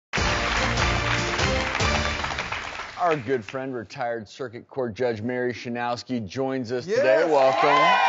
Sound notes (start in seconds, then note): 0.1 audience applauding; 0.1 newsroom music; 7.0 cheering